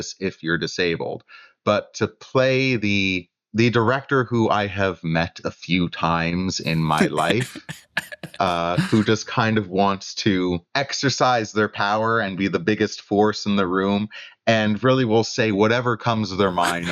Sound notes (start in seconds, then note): 8.5 laughter